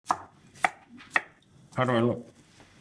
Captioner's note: knife chopping